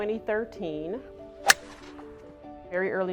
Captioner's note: golf club hitting ball